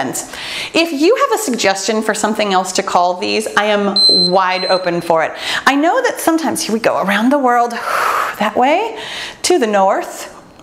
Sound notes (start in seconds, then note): 3.9 timer beeps